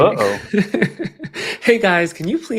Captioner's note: laughs